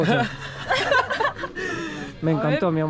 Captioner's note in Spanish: Risas